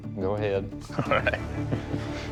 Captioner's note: chuckles